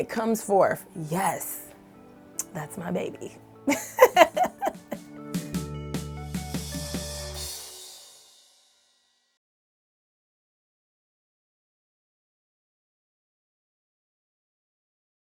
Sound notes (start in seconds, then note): 5.6 laughter